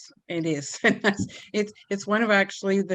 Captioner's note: giggles